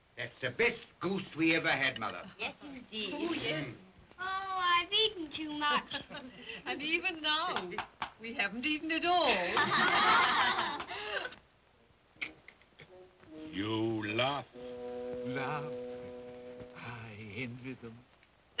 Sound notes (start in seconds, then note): 9.4 children laugh; 13.2 Scrooge makes sucking sound